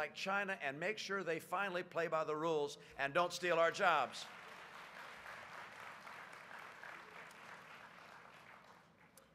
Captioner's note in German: Applaus